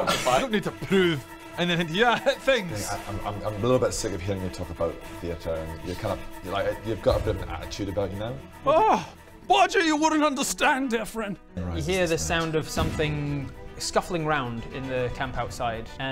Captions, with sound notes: I don't need to prove anything to you, I hit things! Okay, I'm I'm a little bit sick of hearing you talk about the theatre and you're kinda, you've got a bit of an attitude about you now *dramatic sigh* Bodger you wouldn't understand dear friend You hear the sound of something scuffling round in the camp outside